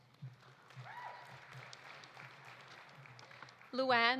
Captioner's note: audience applauding; audience cheering